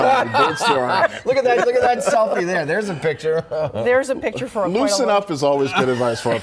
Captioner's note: laughter